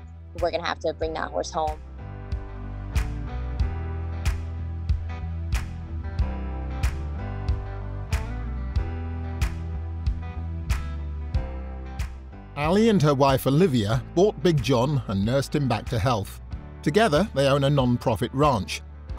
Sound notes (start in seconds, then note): 2.9 slow music; 12.6 voiceover